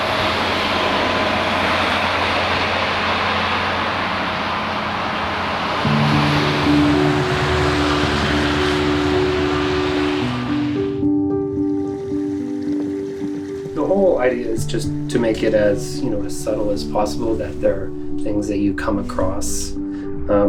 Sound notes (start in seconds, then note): 0.1 engine whirring; 6.5 gentle music; 11.7 water gurgling